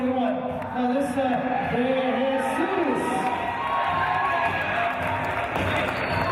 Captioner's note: team cheers